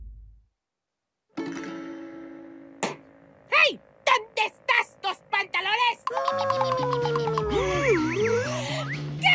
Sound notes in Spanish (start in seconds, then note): 2.6 tumba la puerta; 6.0 sonidos de duende; 8.5 inhala fuerte